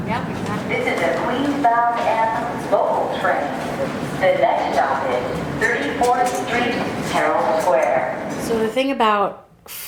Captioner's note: train announcement